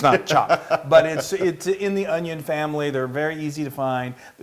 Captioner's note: laugh